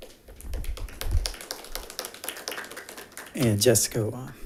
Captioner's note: attendants applauding